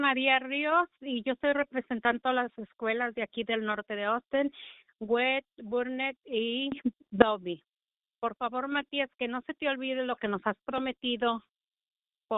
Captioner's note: speaking spanish